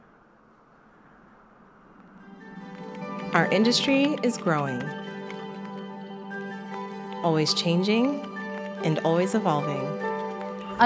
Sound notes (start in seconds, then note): 3.4 voiceover